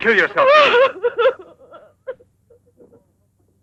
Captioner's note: sobbing